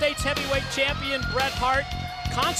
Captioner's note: crowd cheering